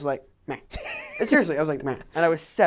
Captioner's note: laughs